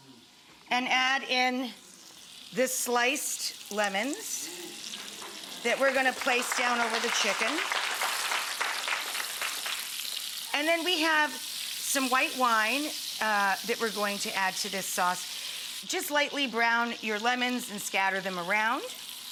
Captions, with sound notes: and add in the sliced lemons (audience applauds) that we're gonna place down over the chicken. And then we have some white wine, that we're going to add to this sauce. Just lightly brown your lemons, and scatter them around.